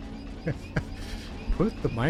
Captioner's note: laughter